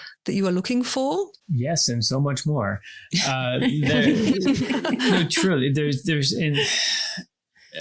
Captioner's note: laugh